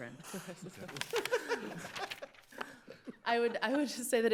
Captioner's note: judges laughing